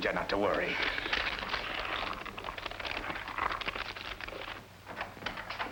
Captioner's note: envelopes crinkling